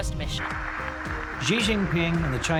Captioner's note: applause